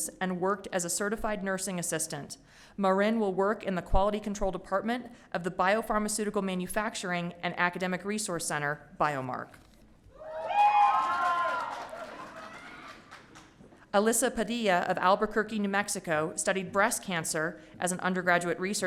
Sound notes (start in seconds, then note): 10.2 audience cheering